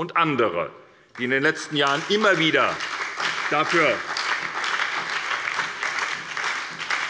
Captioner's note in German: Beifall bei der SPD sowie bei Abgeordneten des BÜNDNISSES 90/DIE GRÜNEN